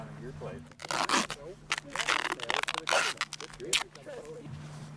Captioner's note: tape screeching; men chattering